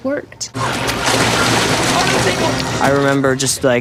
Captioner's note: squeals; water splashing